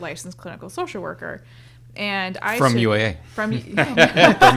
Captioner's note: all laughing